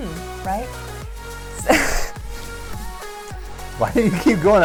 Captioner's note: chuckling